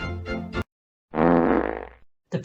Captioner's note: juicy fart